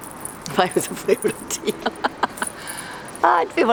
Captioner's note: chuckles